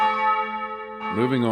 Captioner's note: church bells